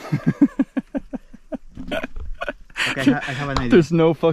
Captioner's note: laughing